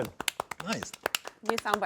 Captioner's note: group applauds